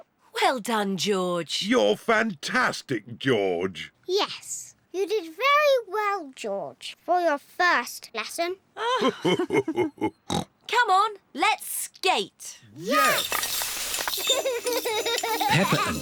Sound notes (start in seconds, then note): 8.8 both laugh; 14.2 laughs